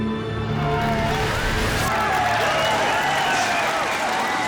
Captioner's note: crowd applauding